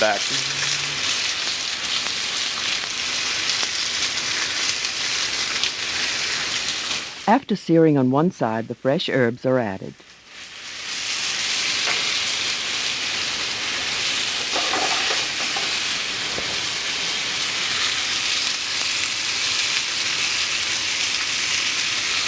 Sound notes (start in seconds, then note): 0.2 pan sizzling; 7.3 voiceover; 10.8 pan sizzling